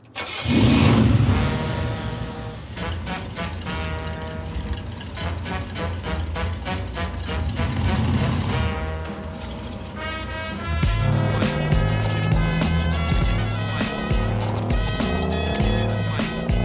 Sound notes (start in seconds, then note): 1.3 hiphop music; 1.5 car engine roaring